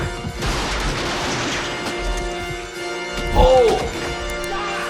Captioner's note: gun firing